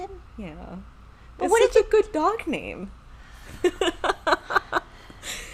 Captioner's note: laughing